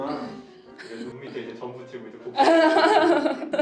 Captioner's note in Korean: 웃음